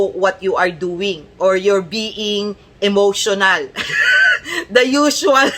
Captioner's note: laughter